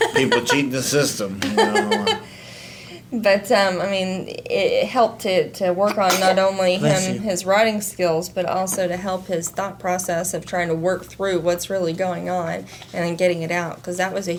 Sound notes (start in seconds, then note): 0.0 laughs; 6.0 baby sneeze